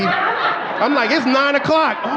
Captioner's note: audience laughing